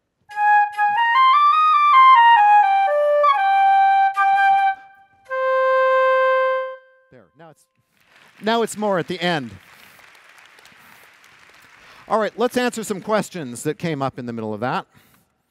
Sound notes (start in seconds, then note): 7.8 applause